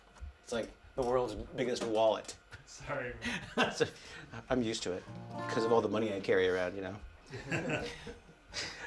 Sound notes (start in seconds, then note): 3.8 laughs; 7.4 laughing